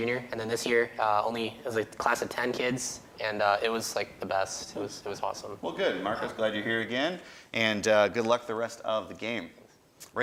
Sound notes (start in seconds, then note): none